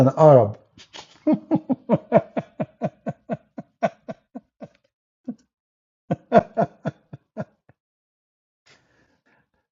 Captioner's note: Ketawa